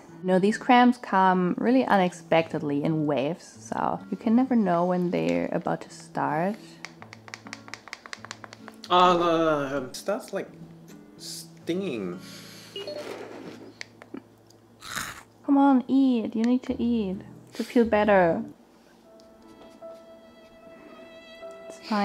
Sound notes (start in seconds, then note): 6.9 clicking; 8.7 groaning; 14.8 crunching; 19.1 sad music